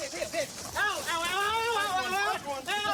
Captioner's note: screaming